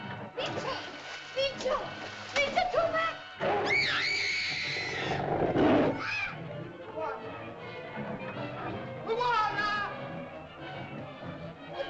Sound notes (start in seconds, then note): 0.0 suspenseful music; 0.3 water splashes; 3.6 girl shrieks; 4.6 dinosaur growls; 8.1 suspenseful music